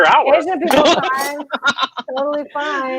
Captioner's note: laughing